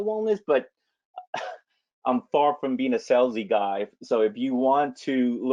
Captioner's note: laughs